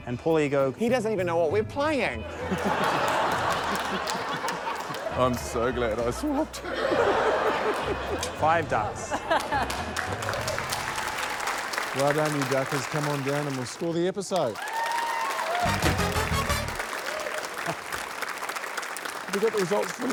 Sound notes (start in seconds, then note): 0.1 laughter, applause; 5.0 laughter; 7.4 laughter, applause; 12.4 cheering, applause